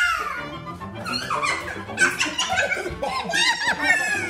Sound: laughing

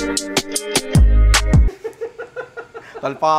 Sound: laughs

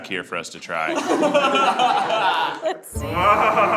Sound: group laughs

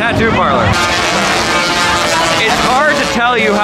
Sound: electricity buzzing

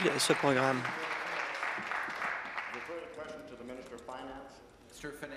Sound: applause

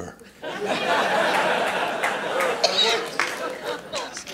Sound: laughter

